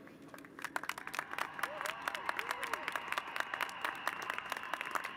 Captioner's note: applause